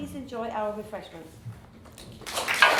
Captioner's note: applause